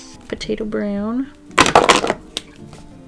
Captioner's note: marker banging on desk